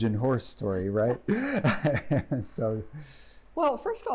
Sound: laughing

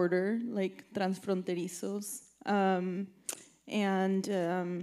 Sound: speaking in Spanish

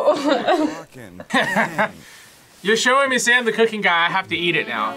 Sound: laughs

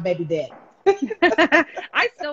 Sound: laughing

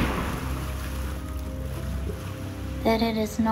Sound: splash

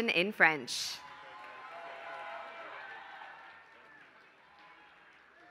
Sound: applause

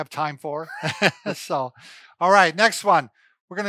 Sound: laughing

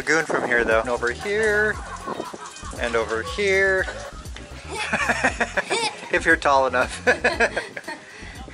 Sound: laughter

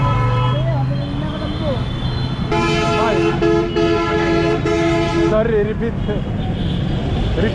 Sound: car honking

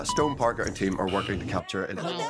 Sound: timer beeps; bell dings; laughs

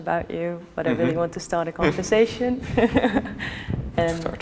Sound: laughs

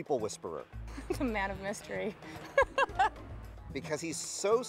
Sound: laughing

